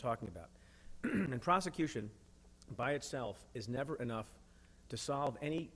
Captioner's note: clears throat